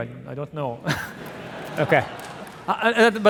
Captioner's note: audience laughing